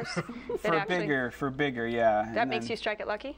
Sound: laughter

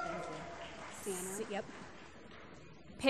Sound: applause

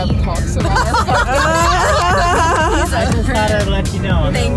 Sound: laughing

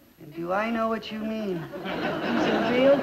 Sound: audience laughs

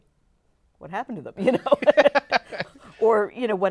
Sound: laughs

